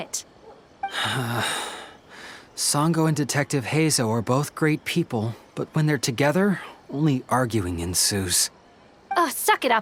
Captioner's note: sigh